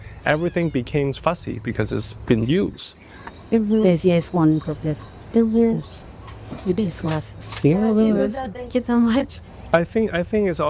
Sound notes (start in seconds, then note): 3.2 and translator speaking spanish